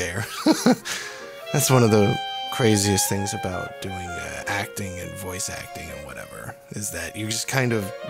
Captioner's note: laughs